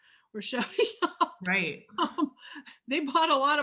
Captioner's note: laughs